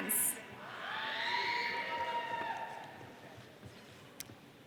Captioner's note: audience cheering